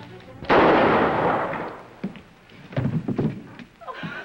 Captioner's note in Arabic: طلق ناري